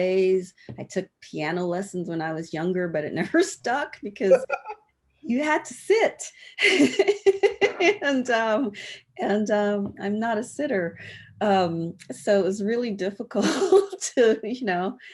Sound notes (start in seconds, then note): 4.2 laughs